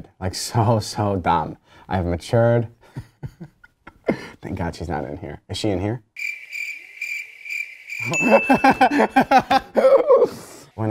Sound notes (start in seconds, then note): 6.1 crickets chirping; 8.0 laughing